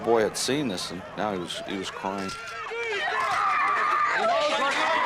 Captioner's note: screaming